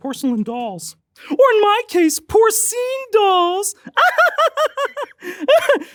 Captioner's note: laughs